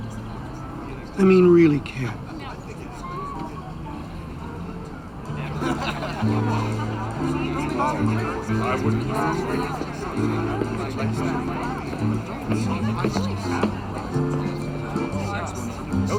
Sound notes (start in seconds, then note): 5.5 slow jazzy music; 8.3 crowd chattering